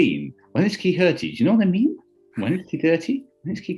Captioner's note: raps